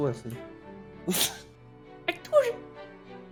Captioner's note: laughs